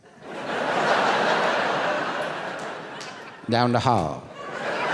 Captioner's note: audience laughing